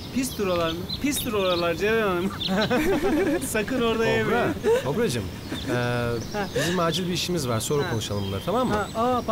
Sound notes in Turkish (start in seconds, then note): 2.2 gülüyorlar; 9.1 fransızca konuşuyorlar